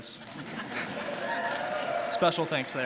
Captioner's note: audience laughing